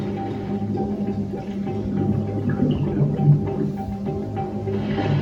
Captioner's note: water bubbling; explosion